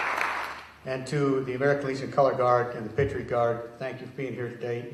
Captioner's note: applause